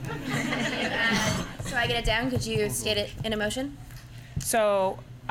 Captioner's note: laughter